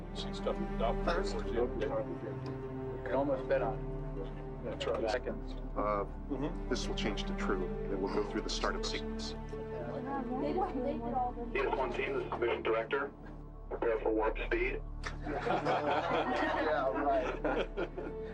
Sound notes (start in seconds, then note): 10.4 navigators chattering; 15.0 room laughing